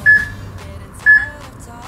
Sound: peep

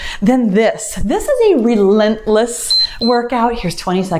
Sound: timer beeps

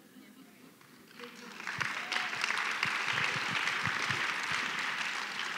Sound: applause

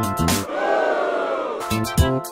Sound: funky music; booing; funky music

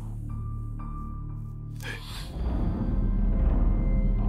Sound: scarecrow whispers

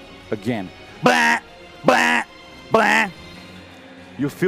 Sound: alarm sounding

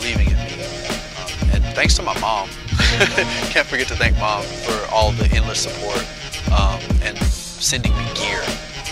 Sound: laugh

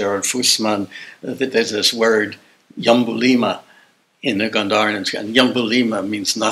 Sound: non-english

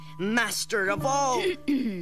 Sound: clearing throat

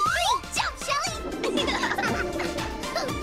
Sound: laughing

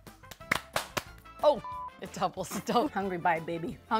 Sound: beep

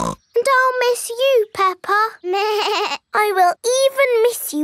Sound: snorts; bleats

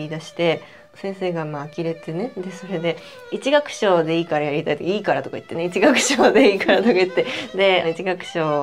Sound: laughs

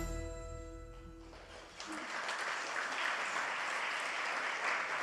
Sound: audience applauds

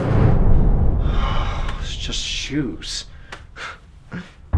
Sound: sigh

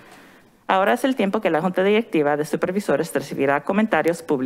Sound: in foreign language

